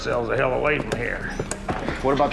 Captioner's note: grunts